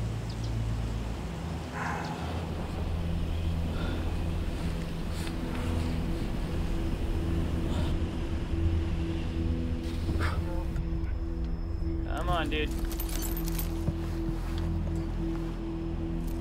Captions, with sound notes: [BREATHING HEAVILY] Come on, dude.